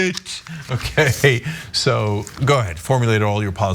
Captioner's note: laugh